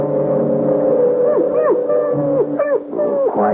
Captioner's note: birds chirping; baby crying